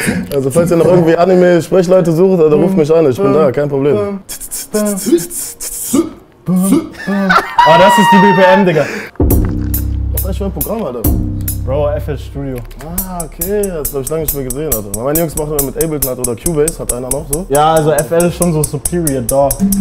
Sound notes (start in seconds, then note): 4.2 both hum a beat